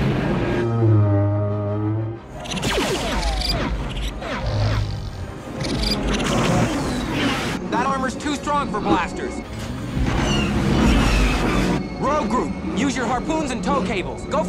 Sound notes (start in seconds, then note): 0.0 explosion; 0.3 camel growl; 2.4 blaster shots; 4.2 lion growl; 5.6 raccoon chirps; 9.8 blaster shots